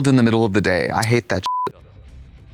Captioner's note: beep